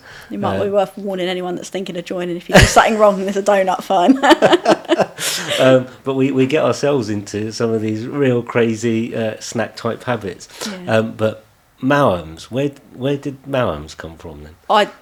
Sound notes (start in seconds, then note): 3.9 laughing